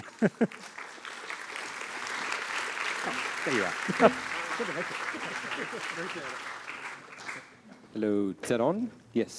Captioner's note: applause